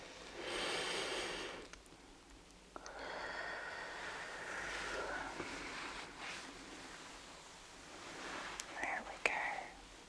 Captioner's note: shuffling and ruffling